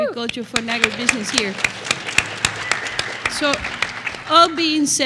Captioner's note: applause